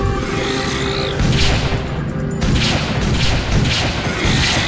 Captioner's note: creature growling; gun firing; creature growling